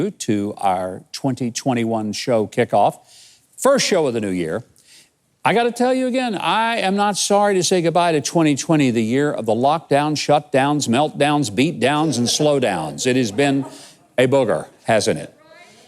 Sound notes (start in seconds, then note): 11.8 audience laughs